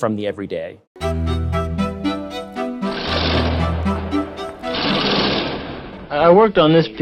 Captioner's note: chains dragging; pensive violin music